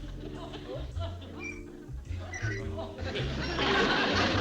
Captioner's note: creaking